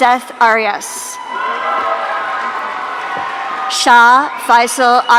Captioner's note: audience cheering